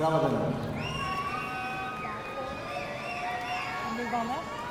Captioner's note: audience cheering